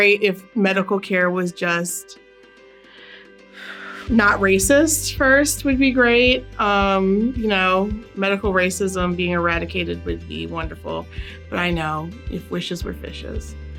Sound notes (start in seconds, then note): 3.6 sigh